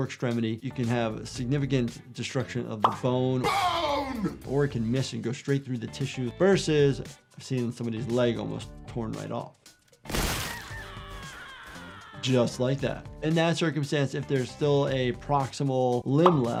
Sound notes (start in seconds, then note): 10.0 gunshot fired; 10.4 character screaming